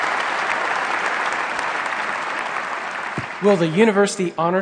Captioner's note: applause